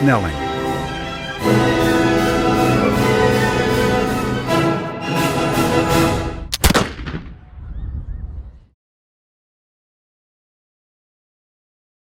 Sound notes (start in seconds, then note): 6.5 gun Shot